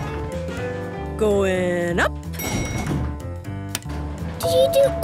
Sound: elevator pings

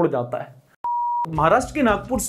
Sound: beep

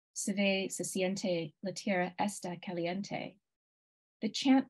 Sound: speaking in foreign language

